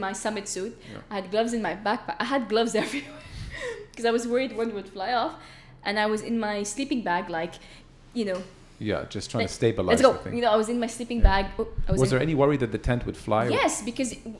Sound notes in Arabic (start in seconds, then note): 2.7 تضحك